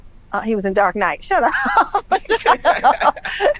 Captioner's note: laughs